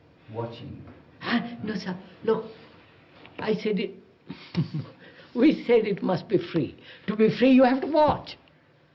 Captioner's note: laughs